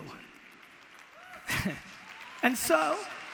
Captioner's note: audience applause